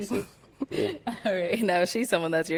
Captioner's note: laughing